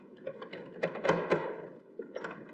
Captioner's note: none